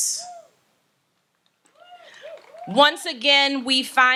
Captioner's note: audience cheers